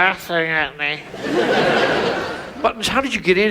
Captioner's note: audience laughs